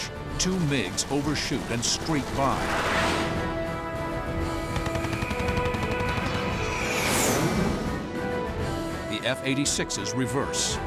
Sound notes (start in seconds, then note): 3.2 dramatic music playing; 6.8 engines whining